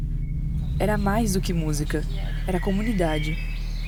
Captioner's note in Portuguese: passarinhos